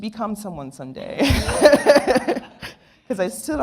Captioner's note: laughter